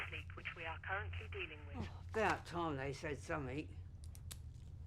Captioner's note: intercom voice